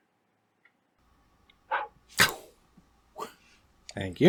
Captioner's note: makes throwing and catching sounds